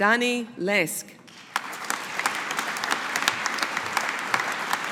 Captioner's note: audience applauding